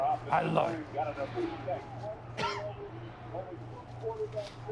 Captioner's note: coughs